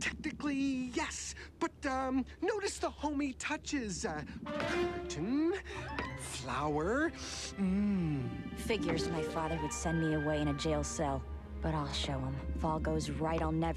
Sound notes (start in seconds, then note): 7.9 sniffs